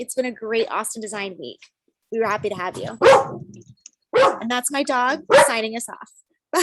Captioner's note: barking